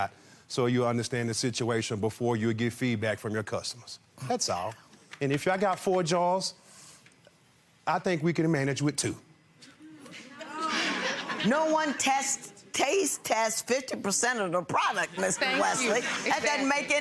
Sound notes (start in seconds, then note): 10.0 laughs